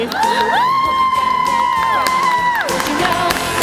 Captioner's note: cheering